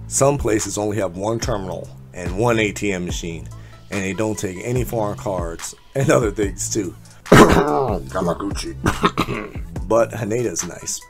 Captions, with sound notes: some places only have one terminal and one ATM machine and they don't take any foreign cards and other things too [clears throat comically] Yamaguchi but Haneda is nice